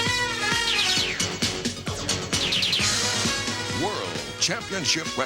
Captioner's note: lasers firing